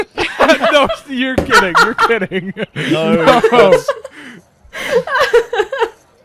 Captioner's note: laughter; laughing; laughs